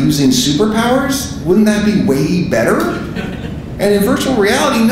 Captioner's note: audience laughing